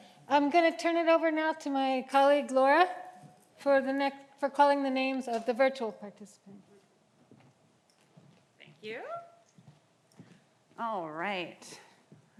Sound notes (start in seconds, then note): none